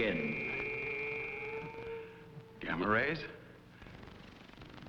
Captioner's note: buzzing